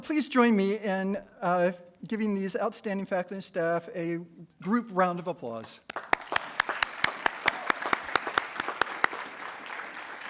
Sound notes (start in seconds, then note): 5.8 attendees applauding